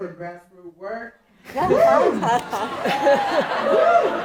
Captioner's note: cheering